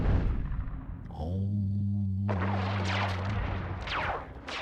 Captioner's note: hums